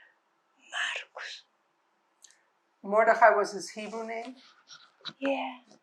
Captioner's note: whispering